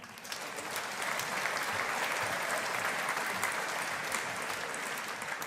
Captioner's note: audience applauding